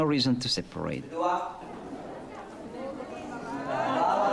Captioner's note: non-english speech